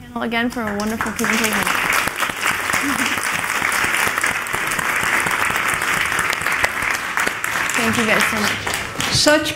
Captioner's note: applause